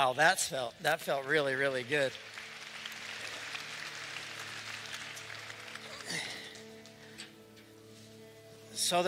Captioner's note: applause